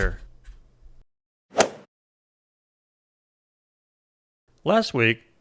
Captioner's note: golf swing sound effect